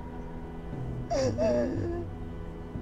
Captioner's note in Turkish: Ağlama sesleri